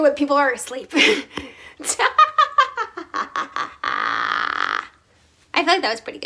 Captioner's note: laughs